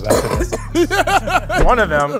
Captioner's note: coughs